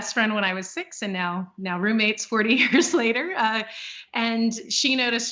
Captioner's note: laughing